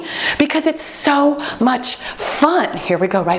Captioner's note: beeping